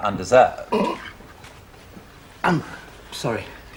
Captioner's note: splutters